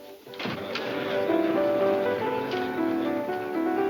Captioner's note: crowd chattering